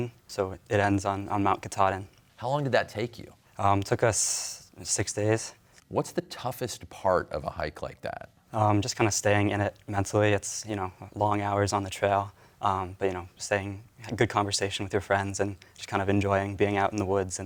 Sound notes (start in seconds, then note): none